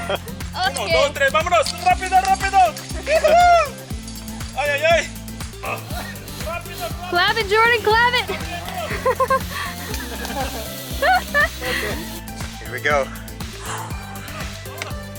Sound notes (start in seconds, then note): 0.0 laughter; 8.6 laughter